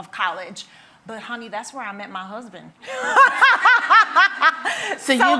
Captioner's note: laughs